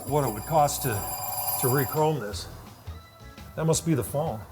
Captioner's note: phone tinging